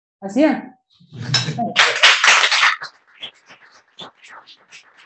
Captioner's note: applause